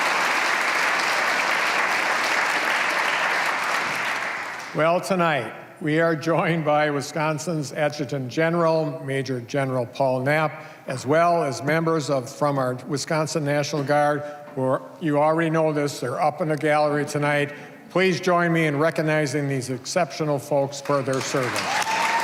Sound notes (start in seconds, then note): 4.9 applause